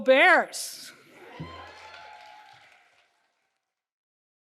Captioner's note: crowd cheering